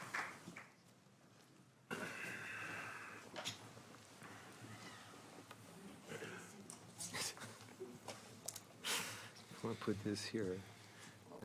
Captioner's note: applause